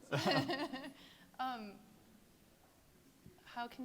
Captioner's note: people laughing